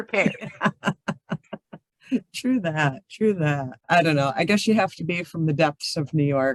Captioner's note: laughs